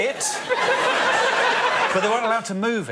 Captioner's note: laughter